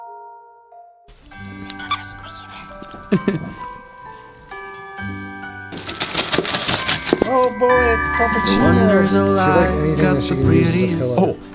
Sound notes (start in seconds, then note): 1.1 festive music; 4.8 toy squeaks; 5.6 present shakes